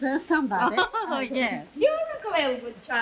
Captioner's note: Myrtle laughing